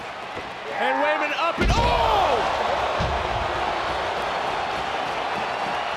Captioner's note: crowd cheers